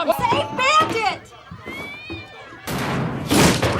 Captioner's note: cat howling; crashing and cat howling